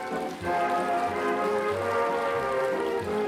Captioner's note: applause